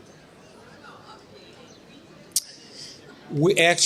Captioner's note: murmurs